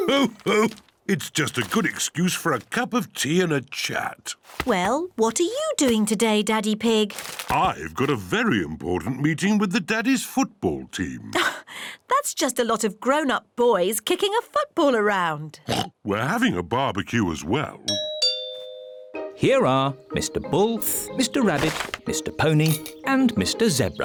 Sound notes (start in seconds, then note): 15.6 oinks; 17.9 doorbell rings